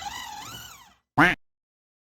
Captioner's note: classic mac quack alert sound